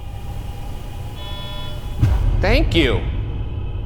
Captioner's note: Boo-Subi beeps